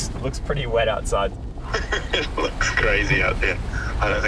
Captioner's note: laughing